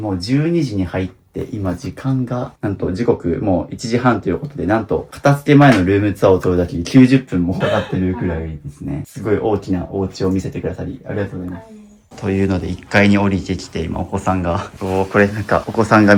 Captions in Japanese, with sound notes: 12時に入って今時間がなんと時刻もう 1 時半ということでなんと片付け前のルームツアを取るだき 90分もかってるくらいですね。 [咳払い] すごい大きなお家を見せてくださりありがとうございます。 というので1 階に降りてきて今お子さんがおなんかお子さんが見る番組って感じだ。多分なんかちょっとゆるくモザイクは勝ちてると思うんですけど歌のお兄さんがちっちゃいお子さんと踊っててね。これが普段の日常なんですね。可愛らしい。そしてさっき寝てたやつもここになるほど。ここで寝ながら見てるみたいな。ちょうどお昼寝タイムではあるので。